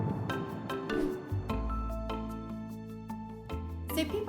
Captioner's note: screen whooshes; bright music continues